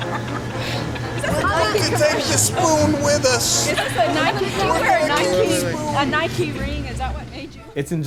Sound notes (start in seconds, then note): 0.0 laughter; 5.7 chatter